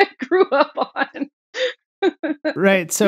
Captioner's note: laughter